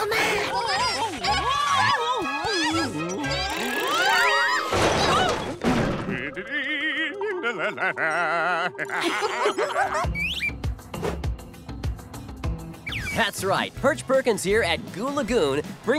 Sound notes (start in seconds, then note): 6.1 humming; 8.5 giggling